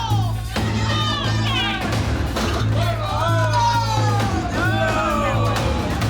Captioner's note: bar patrons clamoring; dramatic music